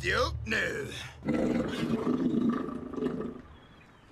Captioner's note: stomach growls